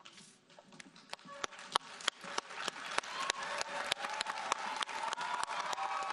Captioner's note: audience cheering and applauding